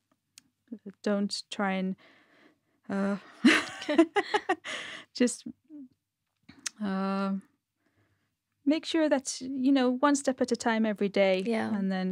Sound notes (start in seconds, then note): 3.4 laughter